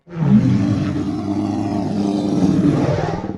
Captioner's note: roar